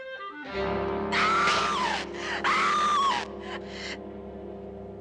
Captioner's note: screaming